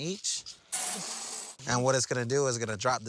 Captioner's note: beans clinking